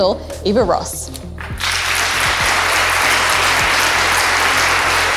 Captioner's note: audience applause